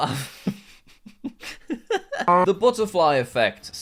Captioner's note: chuckles